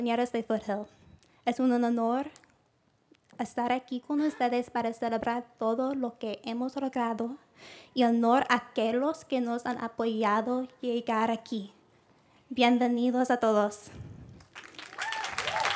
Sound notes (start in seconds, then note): 3.1 foreign Language; 14.7 cheering